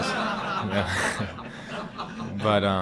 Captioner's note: laughing